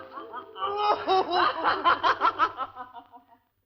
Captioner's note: laughing